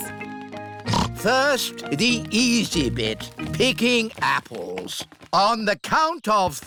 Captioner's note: snorts